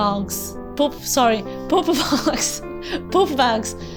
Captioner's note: laughs